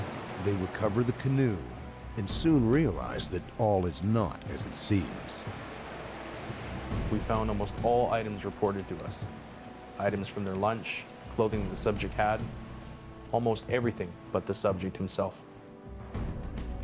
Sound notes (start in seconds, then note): 5.5 voiceover